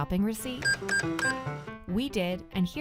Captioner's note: cash register beeping